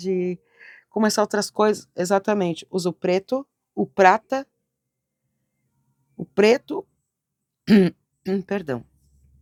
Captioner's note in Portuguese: limpando a garganta